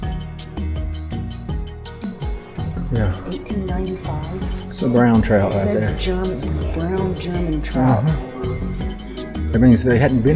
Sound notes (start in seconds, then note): none